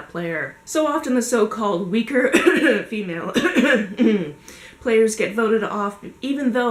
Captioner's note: cough cough